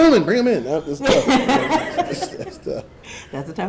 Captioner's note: audience laughing